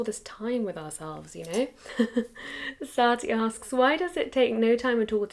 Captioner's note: laughs